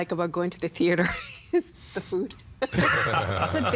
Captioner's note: all laughing